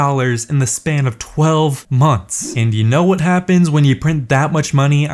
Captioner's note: laughs